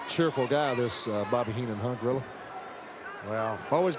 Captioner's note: none